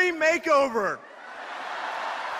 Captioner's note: laughter